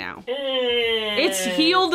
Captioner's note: groaning